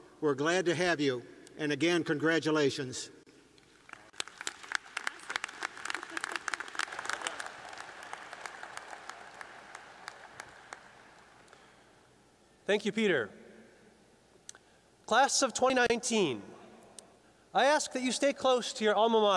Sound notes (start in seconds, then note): 3.8 applause